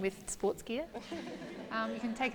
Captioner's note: laughter